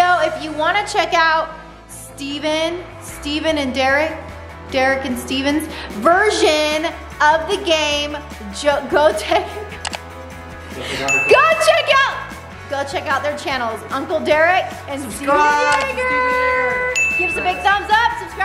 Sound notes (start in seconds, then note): 9.8 clicking